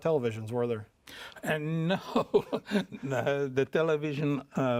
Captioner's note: chuckles